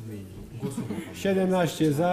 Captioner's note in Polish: głosy z sali, głosy w tle